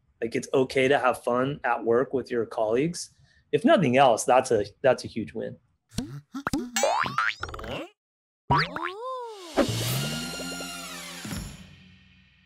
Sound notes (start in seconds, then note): 6.3 springs bounce; 9.6 trumpets play